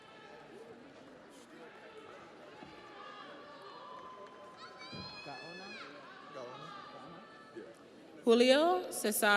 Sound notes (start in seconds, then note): 2.6 audience cheers